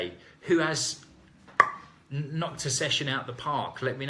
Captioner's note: bat cracking